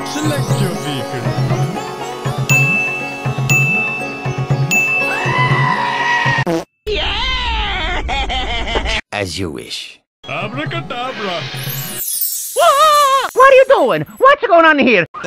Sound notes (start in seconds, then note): 2.5 another ding; 2.5 ding; 4.2 final ding; 5.5 goat scream; 11.6 shimmer